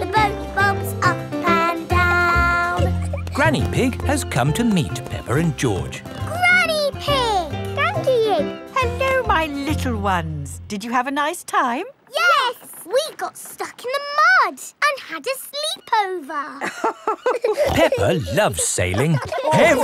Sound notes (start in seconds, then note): 16.6 both laughing